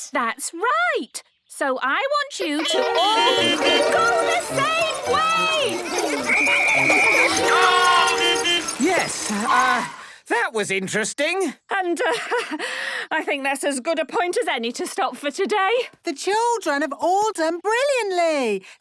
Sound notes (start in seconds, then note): 2.5 beeping; 6.2 whistle blowing; 8.1 beeping